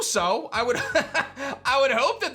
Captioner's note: laughs